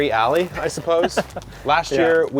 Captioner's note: laughing